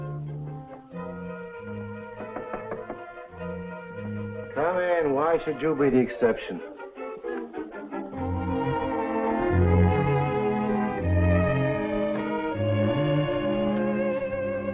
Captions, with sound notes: (knocking at door) Come in. Why should you be the exception? (dramatic music)